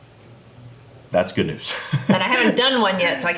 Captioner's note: laughs